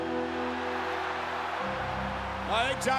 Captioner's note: crowd roaring; lively music